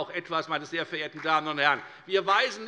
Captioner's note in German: Beifall bei der FDP